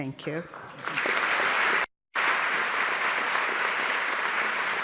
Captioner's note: audience clapping